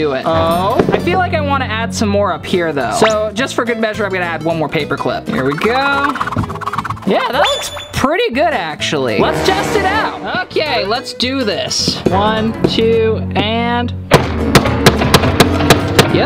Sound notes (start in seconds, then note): 6.3 whipping sound; 14.1 hammering sound